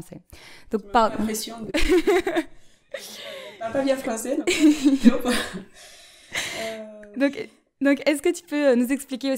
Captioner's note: laughter